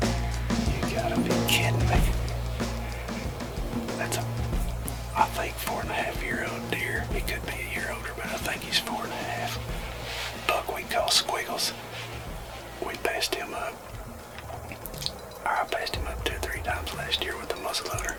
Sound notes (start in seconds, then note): 1.3 whispering